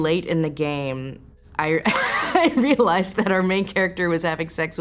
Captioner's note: laughs